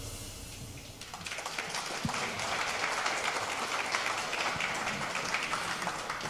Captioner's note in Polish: oklaski